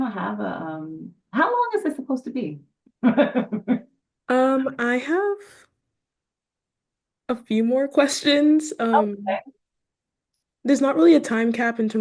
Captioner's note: laughs